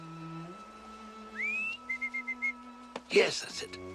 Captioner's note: whistling